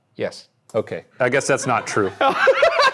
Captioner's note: people laughing; Ryan laughing